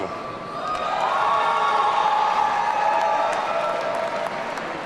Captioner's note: audience cheering